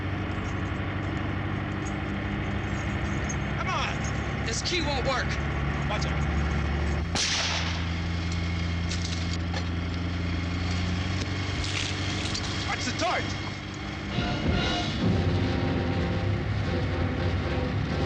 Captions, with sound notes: Come on. - This key won't work. - Watch out. (gun firing) Watch the torch. (dramatic instrumental music)